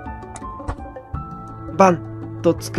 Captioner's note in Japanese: 服の音：バサッ